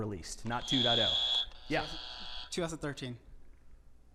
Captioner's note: buzzer buzzing